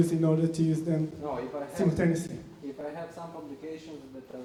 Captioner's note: voiceover